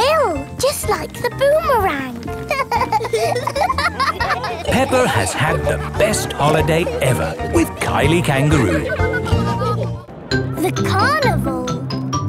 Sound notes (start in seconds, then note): 2.4 laughing